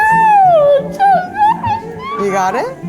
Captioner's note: squeaks